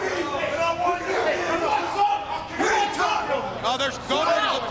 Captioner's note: people chattering